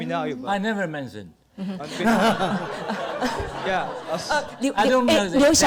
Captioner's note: audience, panel laughter